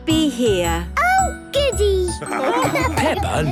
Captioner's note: laughing